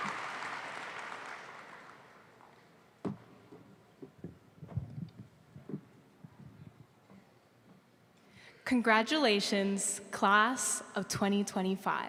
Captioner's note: applause